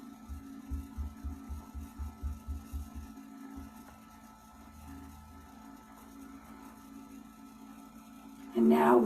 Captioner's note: moment of Silence